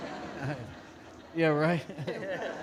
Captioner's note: audience laughing